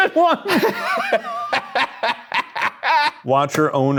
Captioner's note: both laughing